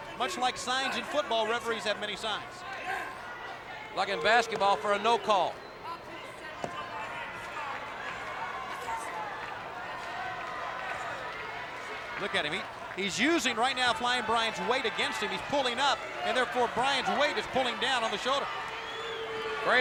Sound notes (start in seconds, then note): 6.4 hands thudding; 7.2 crowd clamoring